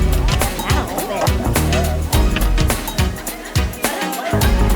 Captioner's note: upbeat music; indistinct chatter